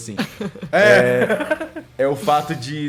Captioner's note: laughs